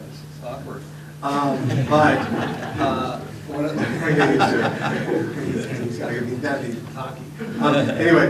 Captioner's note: laughter